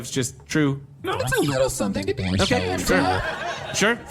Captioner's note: audience laughter